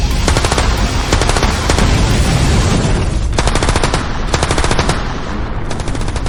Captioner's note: explosion booming; guns firing